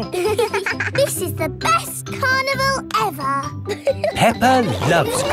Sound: both giggling

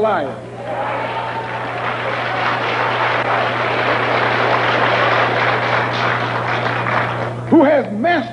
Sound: applause

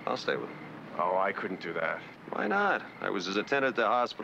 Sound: on telephone

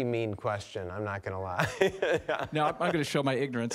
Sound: laughing

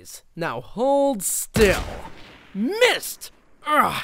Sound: gun bangs

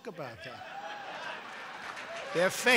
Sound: laughter and applause

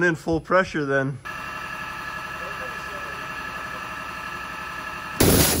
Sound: machine running; violent surge of water splashes

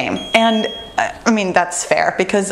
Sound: bell rings

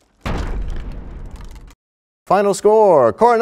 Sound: crashing sound

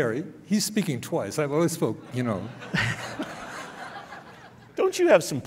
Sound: laughing

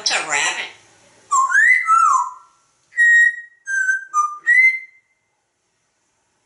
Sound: whistles

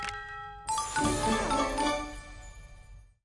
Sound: festive Sounds

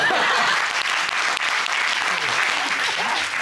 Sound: all laugh, applaud

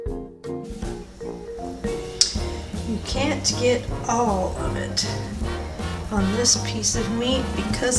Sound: female voice

